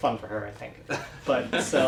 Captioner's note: laugh